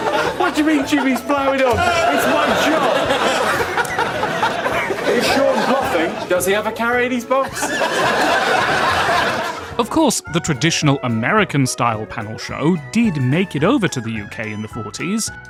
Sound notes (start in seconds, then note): 7.5 uncontrollable laughter